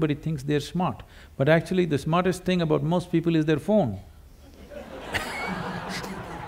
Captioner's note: laughter